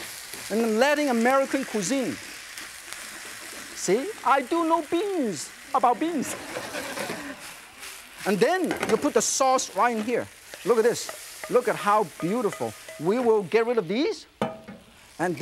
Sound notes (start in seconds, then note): 6.2 audience laughs